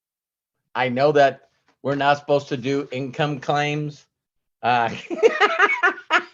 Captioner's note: laughs